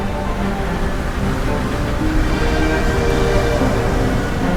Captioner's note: waves splashing